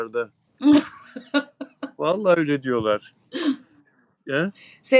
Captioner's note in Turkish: kahkaha